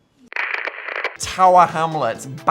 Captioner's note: audio crackling